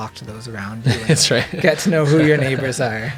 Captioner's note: laughs